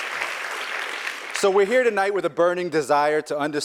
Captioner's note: applause